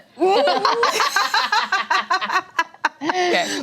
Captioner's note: laughing